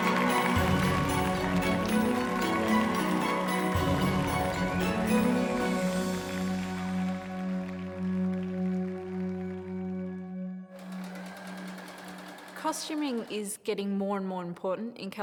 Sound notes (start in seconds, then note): 10.7 sewing machine whirring